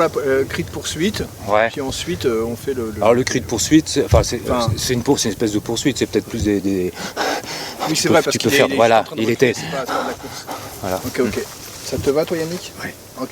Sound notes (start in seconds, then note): 6.8 breathing sound